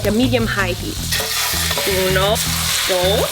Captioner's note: sizzling